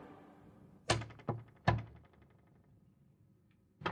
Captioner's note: knocking